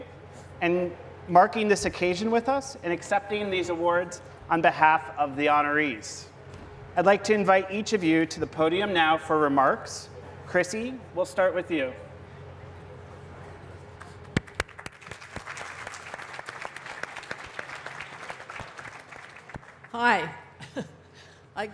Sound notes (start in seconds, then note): 14.3 applause